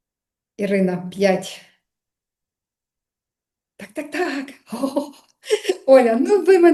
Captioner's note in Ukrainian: сміх